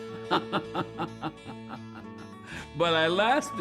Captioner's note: laughing